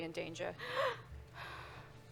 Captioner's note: gasps